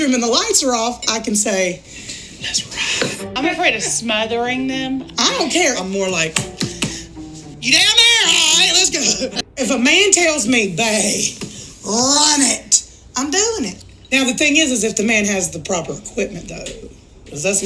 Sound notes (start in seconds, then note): 6.3 smacks table